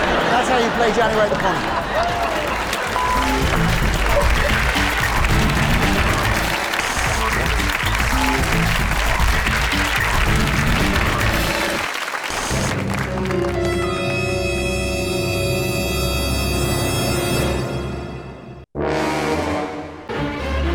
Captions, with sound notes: That's how you play Johnny riding a pony. (audience laughing and applauding) (jazz music and applause) (suspenseful music)